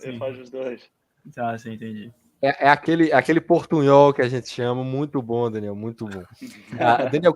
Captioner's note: mix betwen Portuguese and Spanish